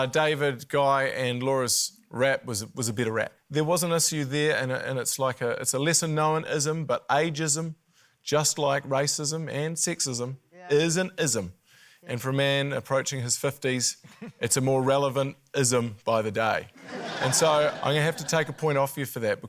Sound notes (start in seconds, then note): 16.8 laughter